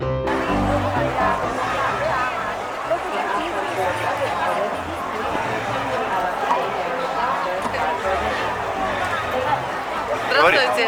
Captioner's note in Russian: шум улиц